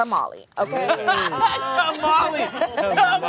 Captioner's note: everyone laughs